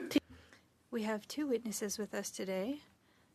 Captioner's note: speaking French